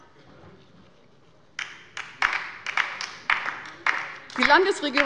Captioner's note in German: Beifall bei der LINKEN